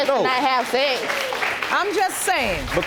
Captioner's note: audience cheering